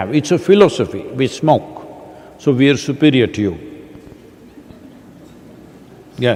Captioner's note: laughter